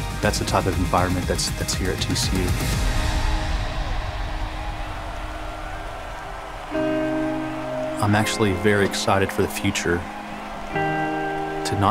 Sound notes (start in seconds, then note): 3.6 crowd cheering